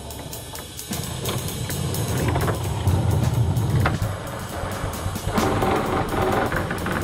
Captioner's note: wheels rumble